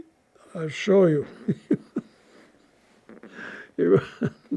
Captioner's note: laughing